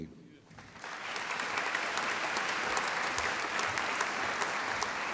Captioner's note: applause